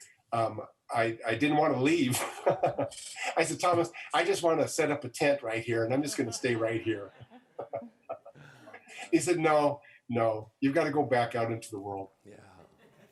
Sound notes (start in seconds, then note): 1.0 laughs